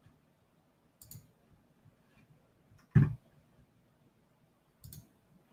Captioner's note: computer mouse clicking